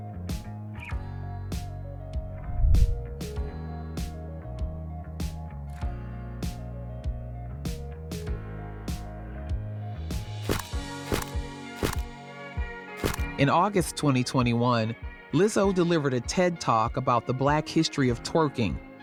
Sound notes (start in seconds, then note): 0.7 gentle music continues; 10.3 camera snapping